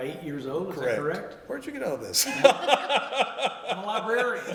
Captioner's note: laughter